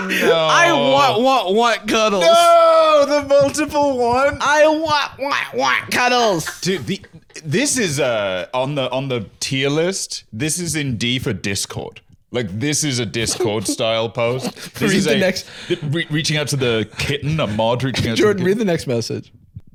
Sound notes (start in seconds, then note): 4.5 whiny